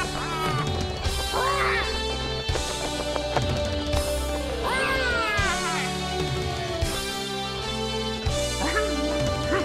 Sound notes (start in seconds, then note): 0.1 bright music; 1.1 squawking